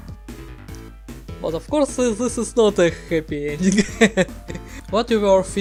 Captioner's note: laughter